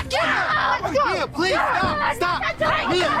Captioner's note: staff hits skull